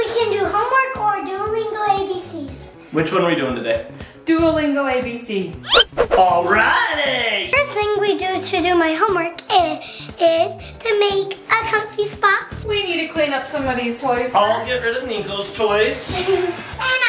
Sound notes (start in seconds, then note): 5.6 hands whooshing; 5.7 squeaking noise